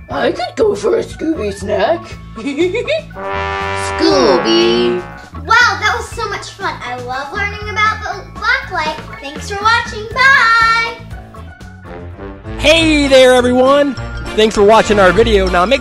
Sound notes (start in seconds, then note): 2.5 laughs; 3.1 trumpet music; 12.0 marching band music